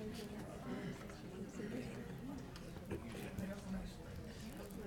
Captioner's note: people chattering